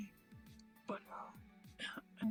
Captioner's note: ahem